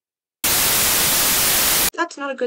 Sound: static

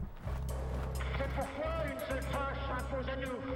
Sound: french dialogue

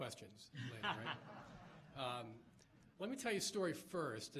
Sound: laughs

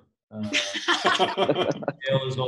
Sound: laughs

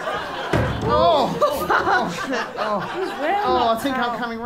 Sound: suspicious thuds

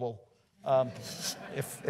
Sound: audience laughs

